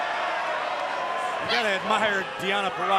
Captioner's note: cheers & applause